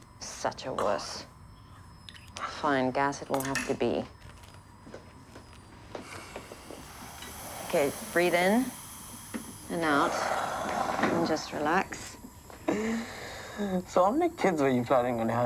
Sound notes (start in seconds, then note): 6.0 inhaling deeply; 12.6 C inhales